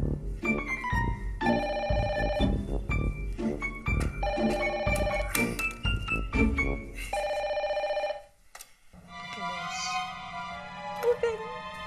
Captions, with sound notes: [telephone ringing] Close open